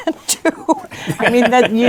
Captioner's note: laughs